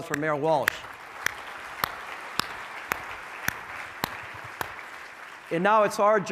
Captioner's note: audience clapping; clapping